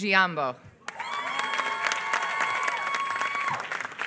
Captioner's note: applause